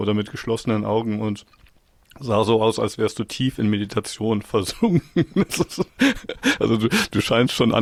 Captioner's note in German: gelächter